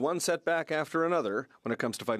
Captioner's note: speaking French